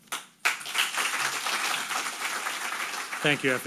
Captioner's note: audience applauding